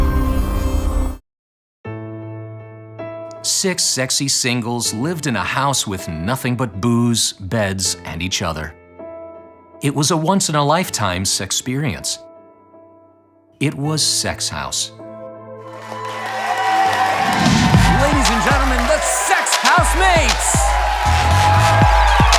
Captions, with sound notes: - [Voiceover] Six sexy singles lived in a house with nothing but booze, beds, and each other. It was a once-in-a-lifetime sexperience. It was Sex House. (audience cheers) - [Voiceover] Ladies and gentlemen, the Sex House Mates.